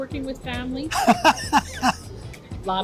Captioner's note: laughs